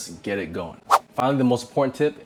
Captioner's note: air whooshing